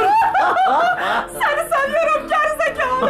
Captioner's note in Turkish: Gülme sesi